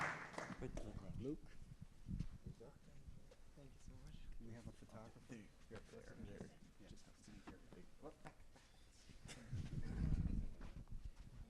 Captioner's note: applause